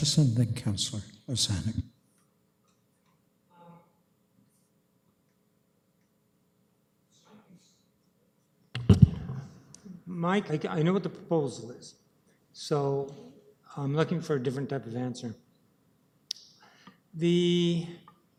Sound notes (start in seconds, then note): none